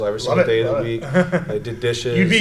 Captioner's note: laughs